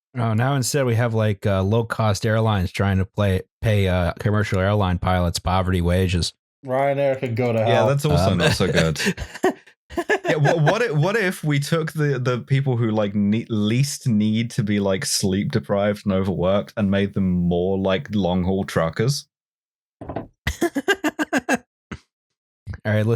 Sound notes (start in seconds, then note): 9.9 laughs; 20.5 laughs